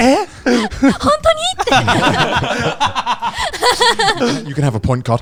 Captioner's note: all laughing